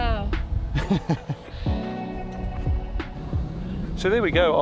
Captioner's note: laughing